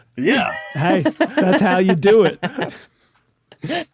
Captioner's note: laughs